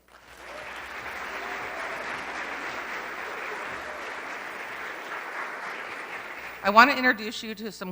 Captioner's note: applause